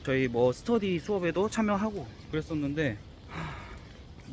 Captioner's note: sigh